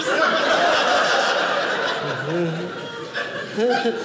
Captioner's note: audience laughing